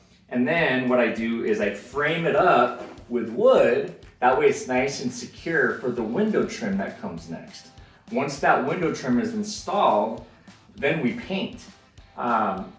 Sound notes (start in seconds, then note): none